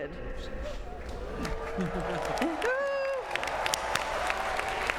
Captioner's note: applause